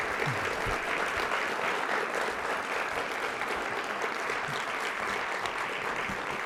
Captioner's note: applause